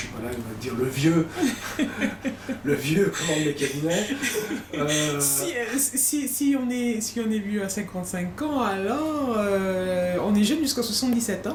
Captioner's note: laugh